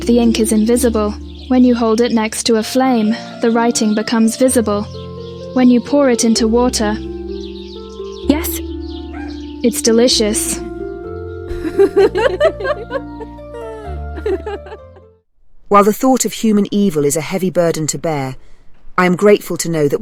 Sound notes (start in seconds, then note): 11.5 laughter